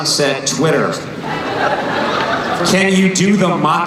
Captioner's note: laughing